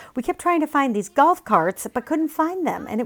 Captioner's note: none